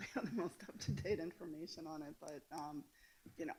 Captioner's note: laughs